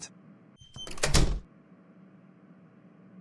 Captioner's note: door closes